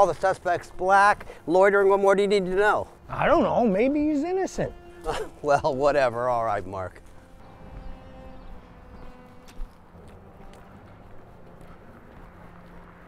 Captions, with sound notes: The suspect's black, loitering what more do you need to know? - I don't know. Maybe he's innocent. - (chuckles) Well, whatever. All right, Mark.